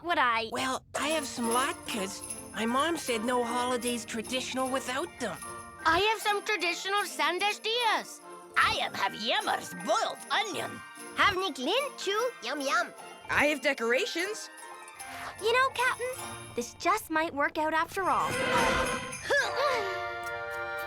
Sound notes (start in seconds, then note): 8.8 speaking foreign language; 18.4 Milo grunts; 19.7 pleasant music